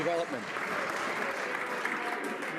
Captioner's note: some Applause